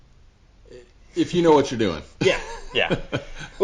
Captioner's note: laughs